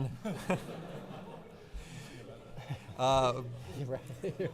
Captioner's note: audience laughing